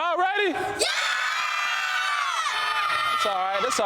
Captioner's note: kids screaming